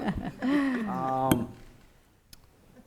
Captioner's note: laughing